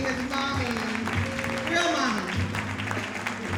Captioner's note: audience applauding